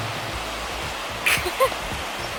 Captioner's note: laughter